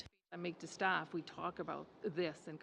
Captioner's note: speaking French